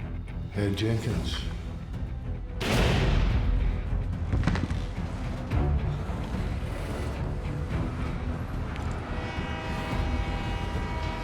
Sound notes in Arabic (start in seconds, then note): 0.6 لهجة اسكتلندية; 2.6 إطلاق رصاصة; 7.6 أصوات المباراة، بوق القطار